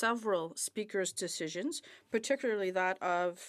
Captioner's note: speaking French